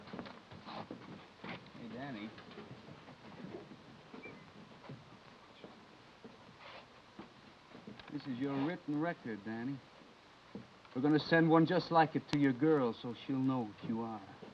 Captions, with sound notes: - Hey Danny? (whistling) This is your written record, Danny. We're gonna send one just like it to your girl so she'll know what you are.